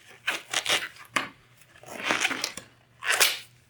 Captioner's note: snapping of gloves